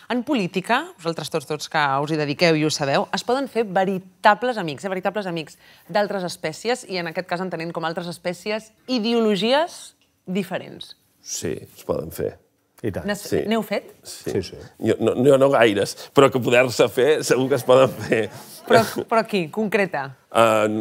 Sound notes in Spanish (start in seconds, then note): 17.5 riendo; 17.6 risas